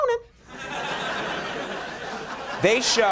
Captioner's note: crowd laughing